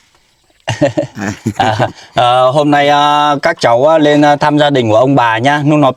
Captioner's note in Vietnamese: tiếng cười